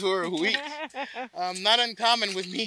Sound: laughs

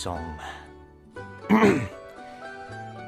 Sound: clears throat

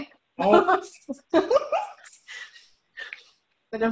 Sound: laughing

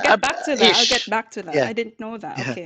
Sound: laughs

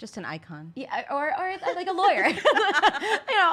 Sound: laughs

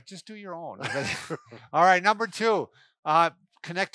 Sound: chuckles

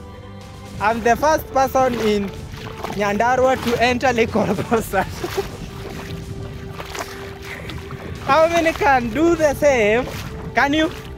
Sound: laughing

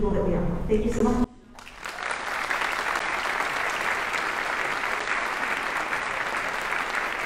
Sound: audience applauding

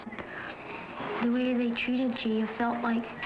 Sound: voiceover

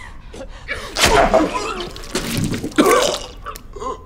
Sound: gags and chokes

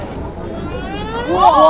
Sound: Squish

